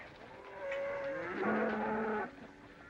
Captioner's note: cattle mooing